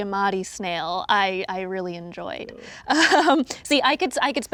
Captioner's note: chuckles